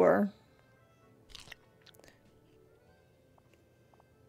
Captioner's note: chewing Noises